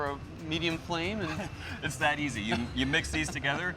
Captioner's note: chuckles